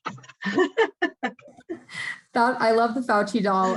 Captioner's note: laughs